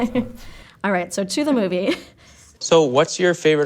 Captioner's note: laughs